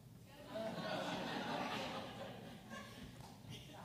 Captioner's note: audience laughs